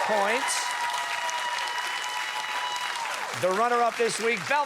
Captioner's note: cheers and applause